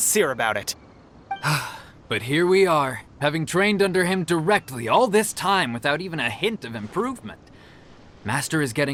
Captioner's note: sigh